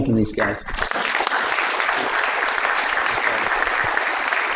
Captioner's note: applause